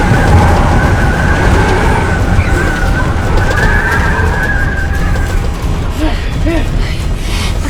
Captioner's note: wind